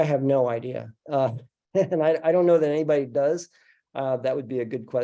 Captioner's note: laughs